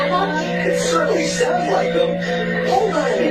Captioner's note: laughs